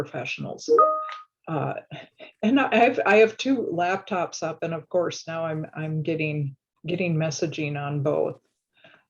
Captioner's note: notification ding